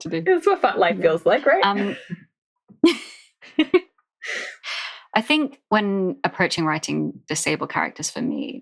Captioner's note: laughs